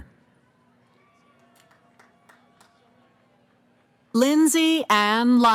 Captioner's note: cheering